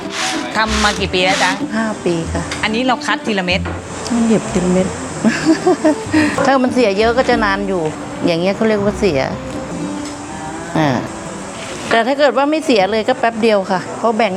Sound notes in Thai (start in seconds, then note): 5.1 เสียงหัวเราะ